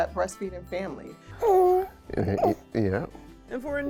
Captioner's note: cooing